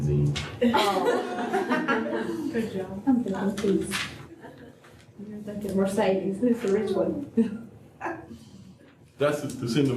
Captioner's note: laughter